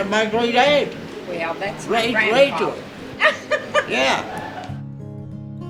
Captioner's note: laughs